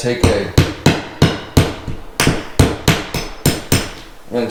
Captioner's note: hammer pounding